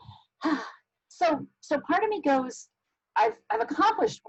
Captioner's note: sighs